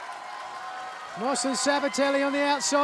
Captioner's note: cheers and applause